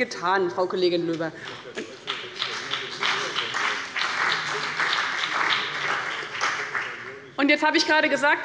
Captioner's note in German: Beifall bei dem BÜNDNIS 90/DIE GRÜNEN und der CDU